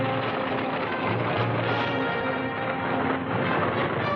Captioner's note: horse galloping